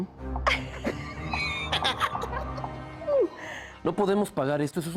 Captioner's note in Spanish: Risas